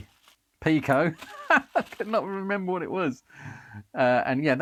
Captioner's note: laughs